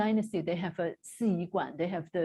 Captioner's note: non-english speech